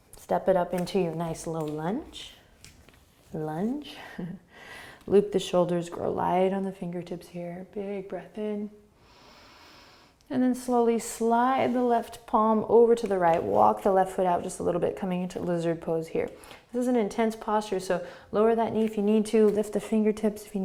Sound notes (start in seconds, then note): 4.2 laughing; 8.9 inhaling